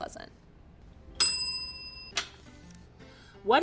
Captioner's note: bell rings